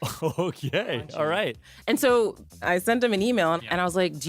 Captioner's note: laughs